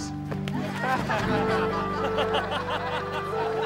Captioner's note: laughing